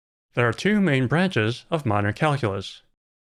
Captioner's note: none